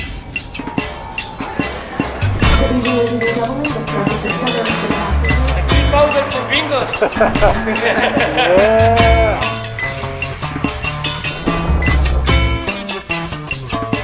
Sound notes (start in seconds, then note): 0.3 upbeat music; 7.1 group laughing; 10.3 upbeat music